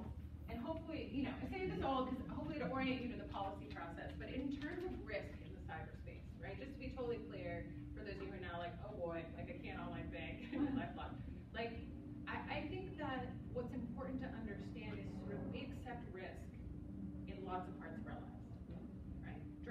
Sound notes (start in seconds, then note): 10.4 laughs